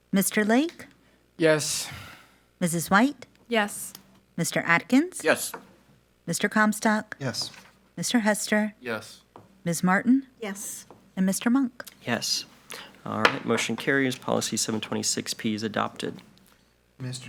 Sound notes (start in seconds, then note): 13.2 gavel taps